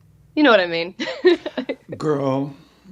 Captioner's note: laughs